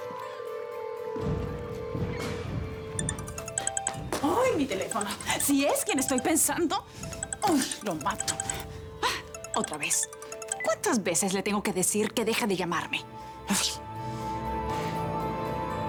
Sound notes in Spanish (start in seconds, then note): 4.5 Suena el celular